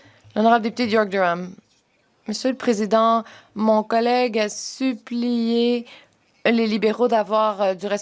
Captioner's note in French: voix de l'interprète